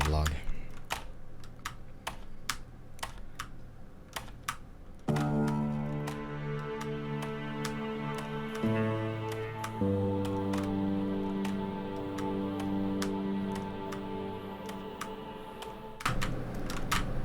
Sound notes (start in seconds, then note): 0.3 clicking of F5 key; 7.6 clicking continues over outro music